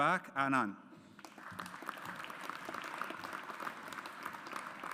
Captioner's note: audience applauds